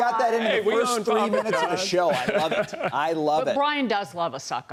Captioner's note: laughter